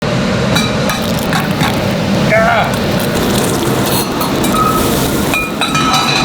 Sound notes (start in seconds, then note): 0.5 cracking; 3.0 sizzling